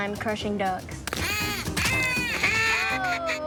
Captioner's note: duck calls blaring